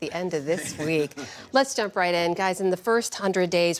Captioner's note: laughter